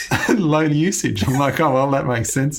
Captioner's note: laughs